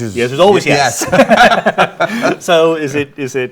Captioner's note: both laughing